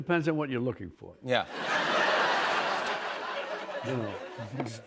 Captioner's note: laughter